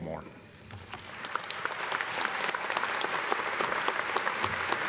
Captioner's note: audience applauding